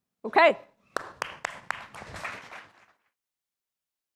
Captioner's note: applause